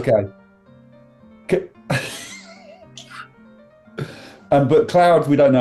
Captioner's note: sniggering